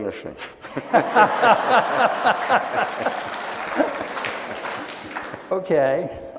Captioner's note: laughing; audience applauding